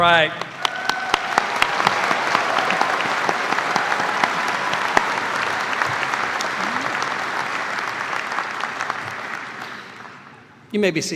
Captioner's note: cheers and applause